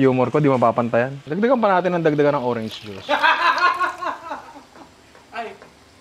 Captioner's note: laughs